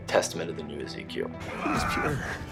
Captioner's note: game audio